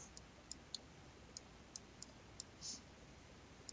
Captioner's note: mouse clicking